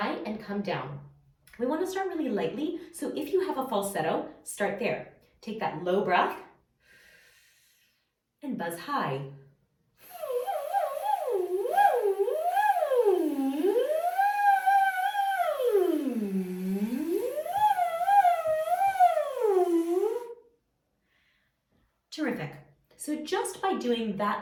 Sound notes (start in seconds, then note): 6.2 inhaling